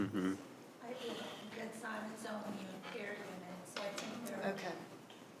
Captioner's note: quietly